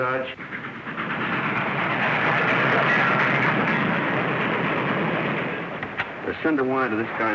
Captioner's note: train noise